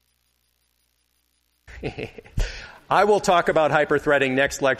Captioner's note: laughs